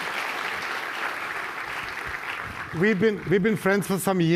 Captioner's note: audience applause